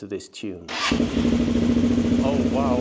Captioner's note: loud engine noise